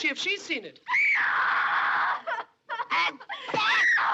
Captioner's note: screaming, Sobbing